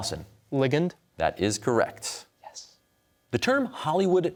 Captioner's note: whispers